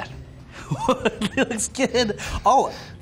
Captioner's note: laughter